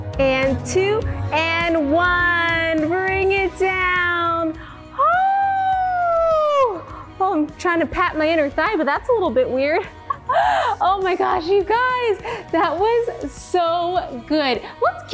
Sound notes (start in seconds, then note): 5.0 shouting; 10.0 laughs